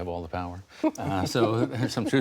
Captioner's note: laughter